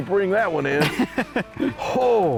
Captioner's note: laughs